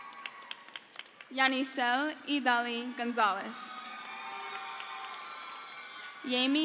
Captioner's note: crowd cheers